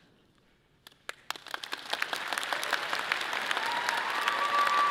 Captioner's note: audience applauding